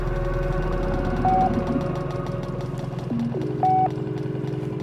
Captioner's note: electronic beeps